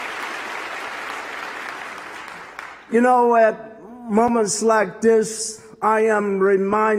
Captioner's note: applause